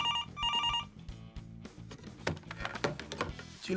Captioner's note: phone ringing